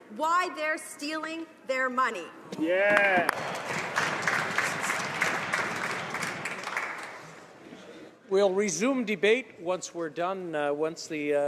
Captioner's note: some Applause